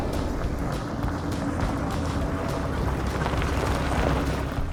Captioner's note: tire crackling